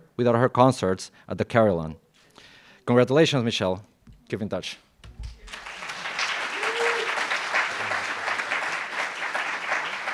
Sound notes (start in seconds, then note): 5.3 applauds